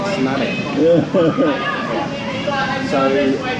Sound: he chuckles

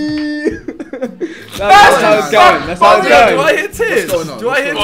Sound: laughing

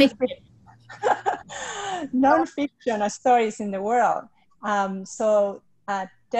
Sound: laughs

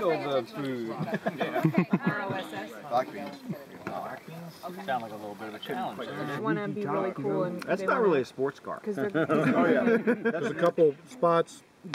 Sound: dinnertime chatter

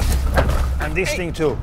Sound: bin thuds onto ground

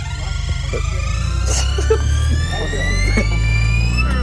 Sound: buzz sound

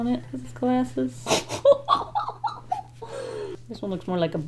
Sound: laughs

